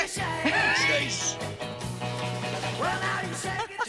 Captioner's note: Reír